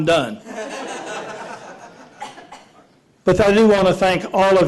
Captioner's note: laughter